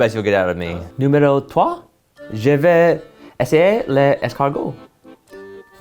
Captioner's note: speaking French